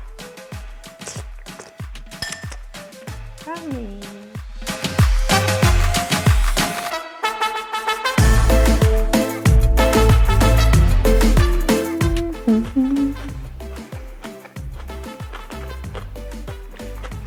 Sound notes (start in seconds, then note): 0.8 liquid squirting; 2.2 utensil clinking; 5.3 bouncy Latin party music; 12.7 humming; 14.9 chomping